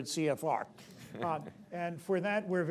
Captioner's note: laughter